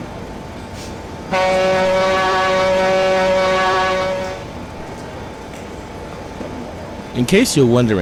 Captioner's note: CB&Q Pioneer Zephyr horn